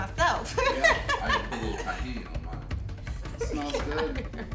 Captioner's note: laughs